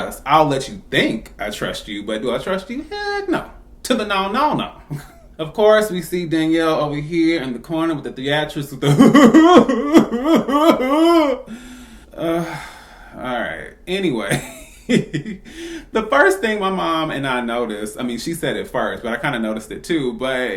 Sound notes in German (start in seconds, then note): 9.0 dramatischen weinenden Geräuschen